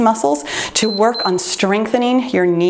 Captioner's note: timer beeps